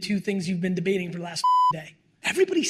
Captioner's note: beep